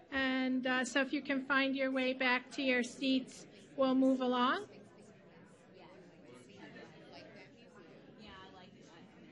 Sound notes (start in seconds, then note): 4.9 audience murmuring